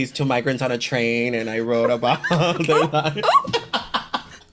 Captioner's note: laughs